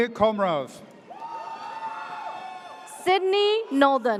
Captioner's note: audience cheers